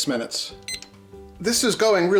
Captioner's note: beep